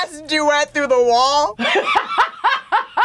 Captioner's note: laughs